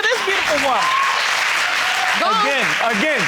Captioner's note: audience applauding